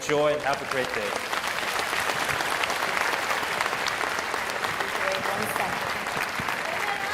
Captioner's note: applause